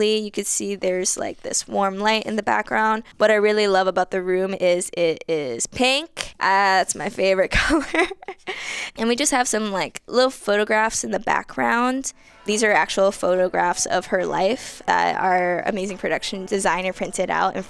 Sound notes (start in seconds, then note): 7.5 laughs